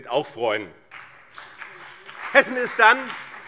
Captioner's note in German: Beifall BÜNDNIS 90/DIE GRÜNEN und CDU